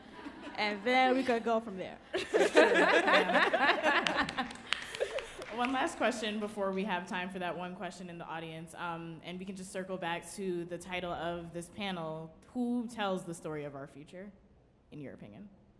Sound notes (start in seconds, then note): 0.0 audience laughing; 2.1 panelist laughing; 3.4 audience applauding